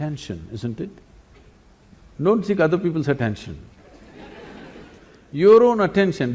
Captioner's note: laughter